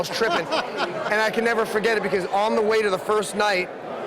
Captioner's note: laughing